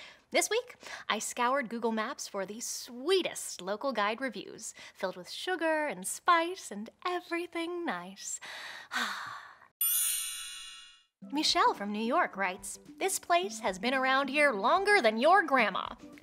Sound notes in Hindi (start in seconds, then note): 8.4 लंबी साँस; 9.8 घंटी की आवाज़